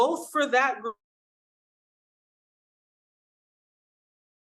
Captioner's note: audio cuts out